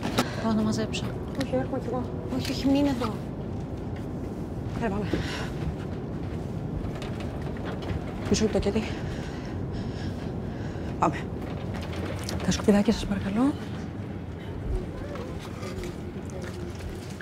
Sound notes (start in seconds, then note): 0.2 Vanina and Kaiti speaking foreign language; 8.2 Vanina speaking foreign language